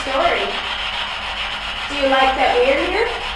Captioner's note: static buzzing